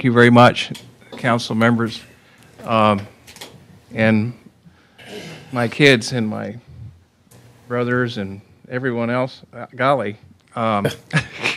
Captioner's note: laughter